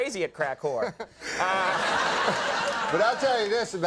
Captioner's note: audience laughing